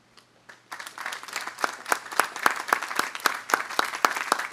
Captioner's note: audience applauding